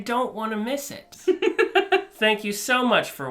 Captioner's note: laughs